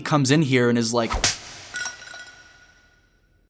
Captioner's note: slap